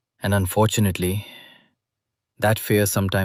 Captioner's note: sighs